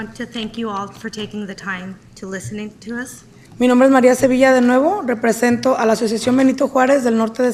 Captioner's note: speaking spanish